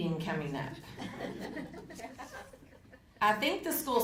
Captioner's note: audience laughing